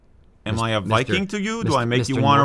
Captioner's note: new York accent